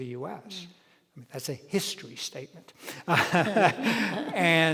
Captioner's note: laughs